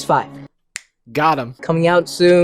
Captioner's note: fingers snap